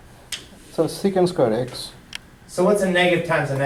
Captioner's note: voiceover